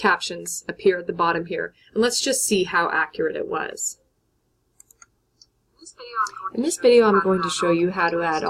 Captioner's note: video voice playing